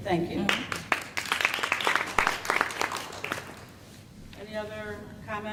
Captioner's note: applause